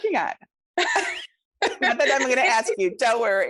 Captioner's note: laughing